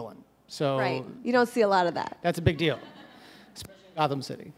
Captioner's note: audience – scattered laughs